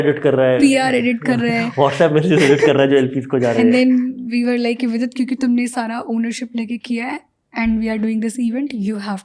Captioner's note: speaks in Hindi